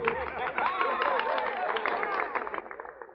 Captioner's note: applause